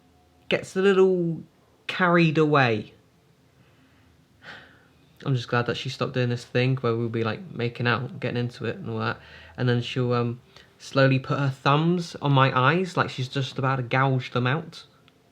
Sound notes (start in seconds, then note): none